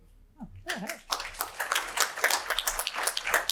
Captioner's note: applause